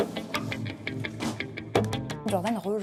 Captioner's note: non-english speech